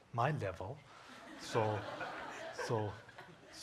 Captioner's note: audience laughing